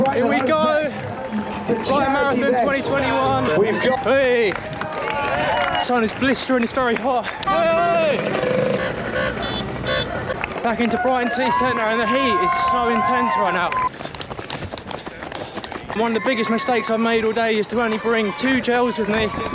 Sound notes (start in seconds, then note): 7.6 cars honking